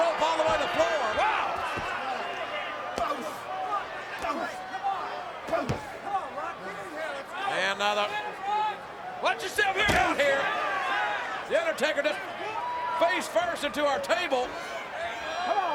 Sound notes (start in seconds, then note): 3.1 crowd chattering; 3.1 kicks thudding